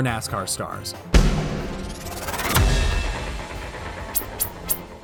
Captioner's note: whirring sound